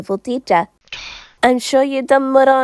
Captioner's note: Skell scoffs